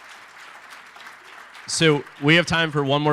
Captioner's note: applause